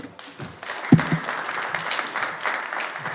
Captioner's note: applause